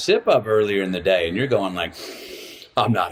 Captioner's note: inhales deeply